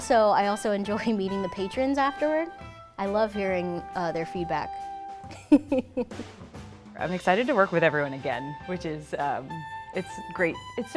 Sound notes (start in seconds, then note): 5.3 laughs